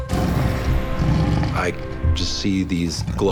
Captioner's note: growling